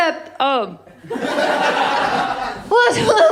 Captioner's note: laughter